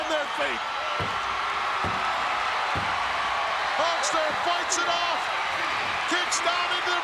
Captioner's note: applause